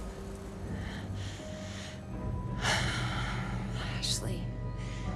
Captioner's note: inhales unsteadily